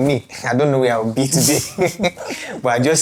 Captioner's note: laughs